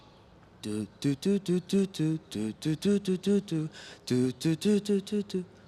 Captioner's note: imitates music